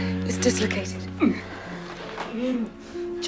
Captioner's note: gagging